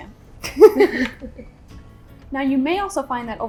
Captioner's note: both laughing